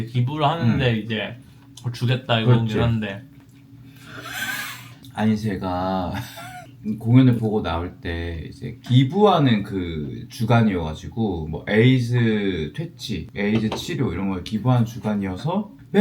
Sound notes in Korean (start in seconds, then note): 4.2 현웃